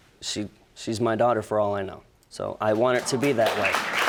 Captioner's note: audience applauding